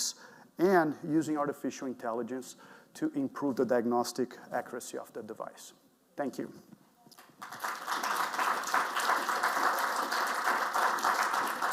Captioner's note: clapping